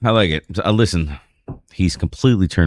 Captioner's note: uh